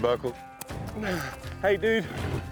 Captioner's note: horse blowing